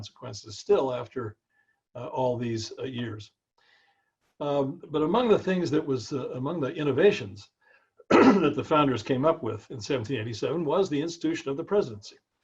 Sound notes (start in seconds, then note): 8.0 cough